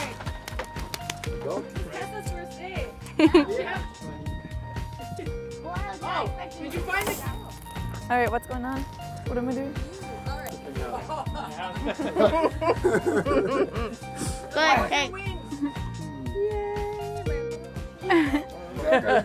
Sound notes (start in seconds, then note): 10.8 laughing; 15.2 party chatter